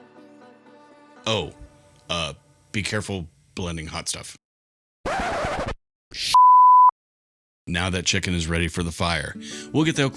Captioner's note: vinyl scratch noise into dump button